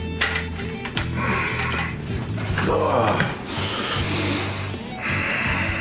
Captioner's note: strained grunts; deep breath